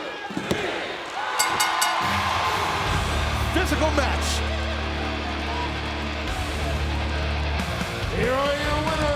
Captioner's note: applause